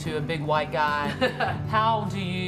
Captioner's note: laughs